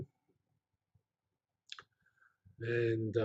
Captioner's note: pause